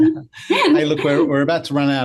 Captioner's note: both laughing